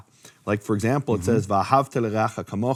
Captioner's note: speaking in foreign language